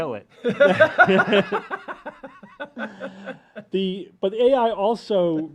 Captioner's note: laughter